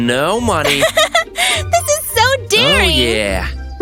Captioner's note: chuckles